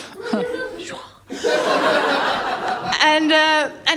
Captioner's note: laughter